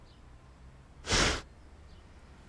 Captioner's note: panicked breath